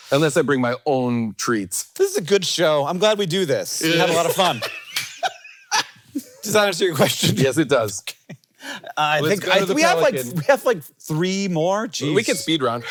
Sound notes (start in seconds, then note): 3.8 Jason laughing; 8.7 laughs